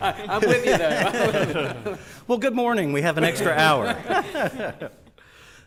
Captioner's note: laughter